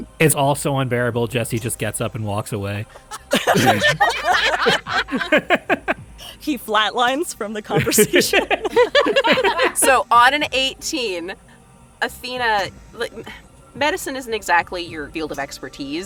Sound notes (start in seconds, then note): 2.9 laughs; 9.0 laughs